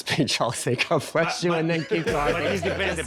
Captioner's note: laughing